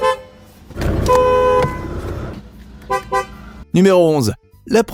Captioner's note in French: Son de klaxon